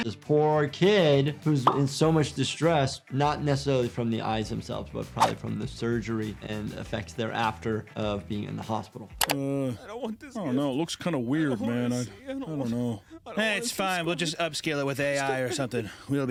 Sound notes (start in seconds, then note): 10.7 patient muttering